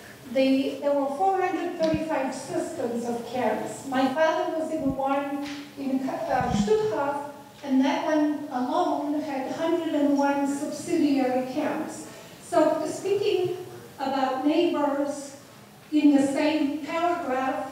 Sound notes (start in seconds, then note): 6.3 student mumbling